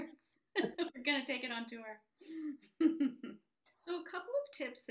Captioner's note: both laugh